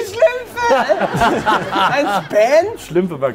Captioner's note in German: Gelächter